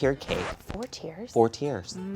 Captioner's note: record scratches